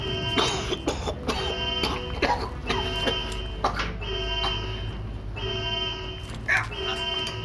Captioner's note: alarm; coughing; grunt